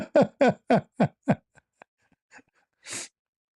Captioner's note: ketawa